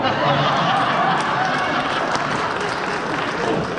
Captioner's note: laughter